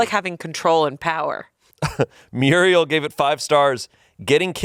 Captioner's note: chuckles